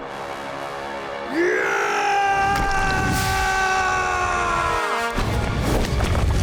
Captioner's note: yelling